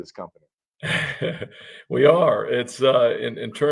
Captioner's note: chuckles lightly